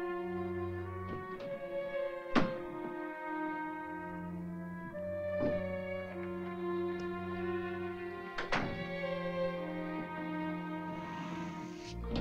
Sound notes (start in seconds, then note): 0.9 door softly clattering; 3.5 ominous music; 6.8 light softly clicks; 8.3 door softly shuts; 9.4 ominous music